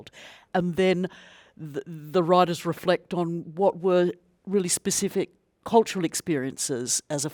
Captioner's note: none